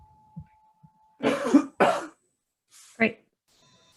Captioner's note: coughs